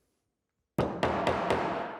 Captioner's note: hammering